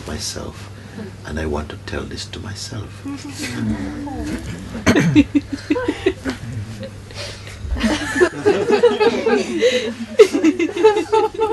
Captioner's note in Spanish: risas